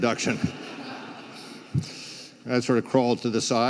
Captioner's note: crowd laughs